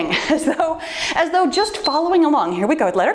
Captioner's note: timer beeps